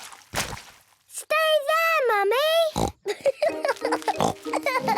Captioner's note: laughing